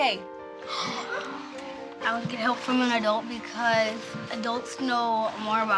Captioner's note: children gasp